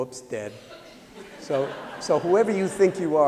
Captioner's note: laughter